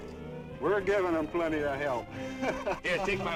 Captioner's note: laughs